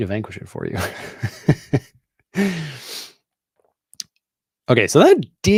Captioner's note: chuckles